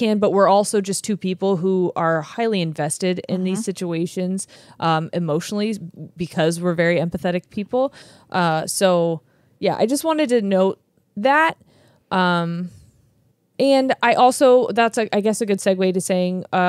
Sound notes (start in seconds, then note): none